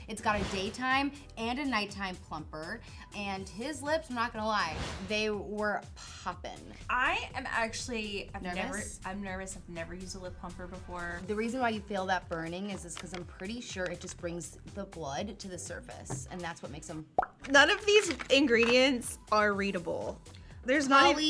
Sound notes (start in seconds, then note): 17.1 mouth pops